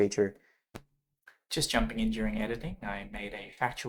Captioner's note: voiceover